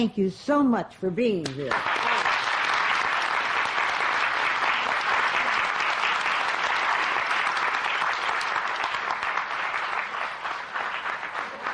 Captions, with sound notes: Thank you so much for being here. (APPLAUSE)